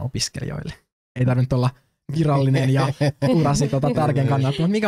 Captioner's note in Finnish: nauravat